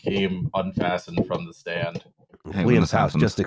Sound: muffled thumks

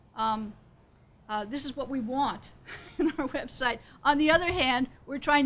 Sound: laughs

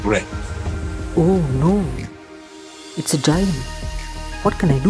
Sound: whispering

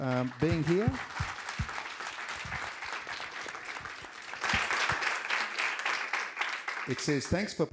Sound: applause

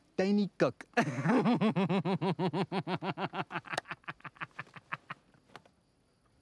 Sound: laughs hysterically

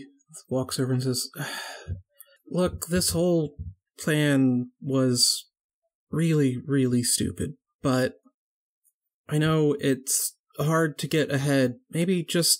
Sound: sighs

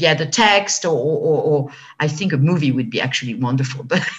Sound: laughs

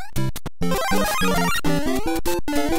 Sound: overworld music; jump sound; overworld music

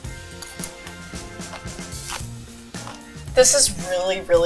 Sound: eating

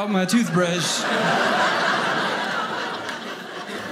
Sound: audience laughing

